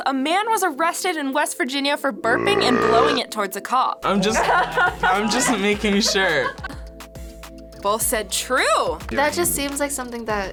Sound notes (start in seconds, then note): 4.3 laughs